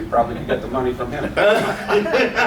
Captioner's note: laughter